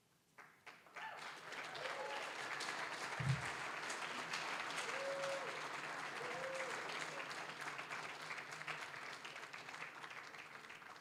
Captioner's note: applause, cheering